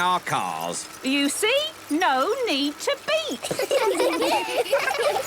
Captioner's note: laughter